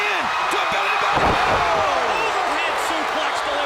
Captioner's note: crowd cheering